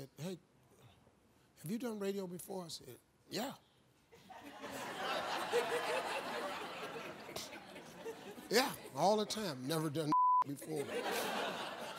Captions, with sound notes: "Hey, have you done radio before?" I said "Yeah!" (crowd laughing) "Yeah, all the time" never done (beep) before.